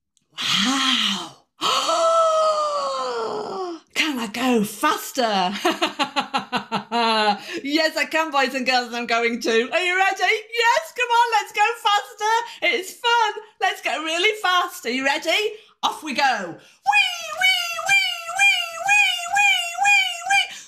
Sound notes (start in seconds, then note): 0.4 gasp; 5.5 laughter